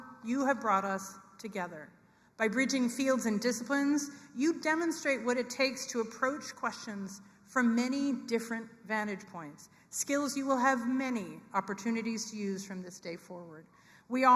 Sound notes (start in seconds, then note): none